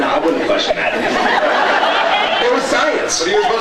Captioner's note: laughs